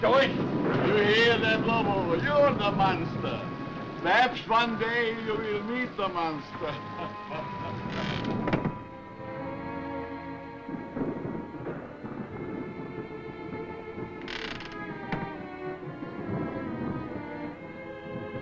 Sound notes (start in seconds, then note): 6.5 chuckling; 9.1 dramatic music; 12.1 thunder roaring